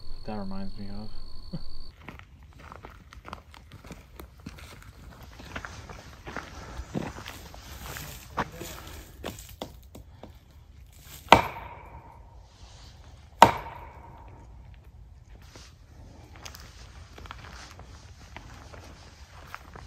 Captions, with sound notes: That reminds me of- (footsteps) (bang, bang)